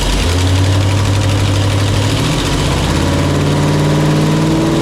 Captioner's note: engine revving